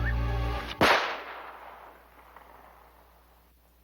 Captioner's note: gunshots